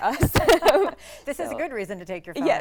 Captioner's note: laughter